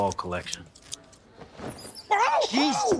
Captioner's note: rats squeaking